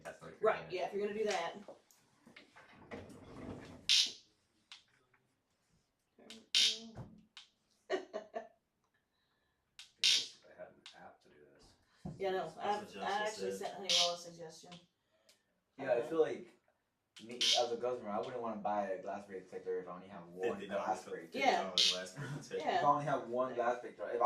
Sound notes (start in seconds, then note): 3.7 laughter; 3.7 zap